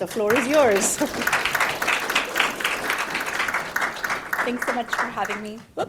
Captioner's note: audience applauding